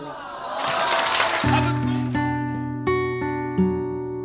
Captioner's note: cheers and applause